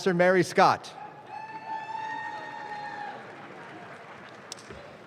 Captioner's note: audience claps